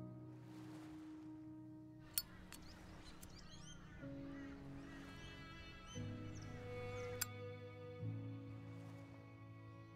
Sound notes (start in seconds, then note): 2.0 lighter Clicks; 2.0 lighter Flicks Open